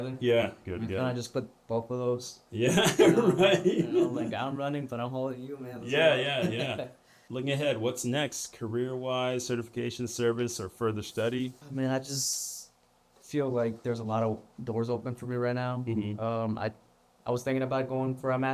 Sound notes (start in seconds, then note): 2.6 laughter